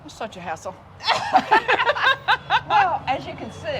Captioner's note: both laughs